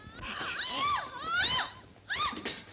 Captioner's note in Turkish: kadinin çiğlik sesleri̇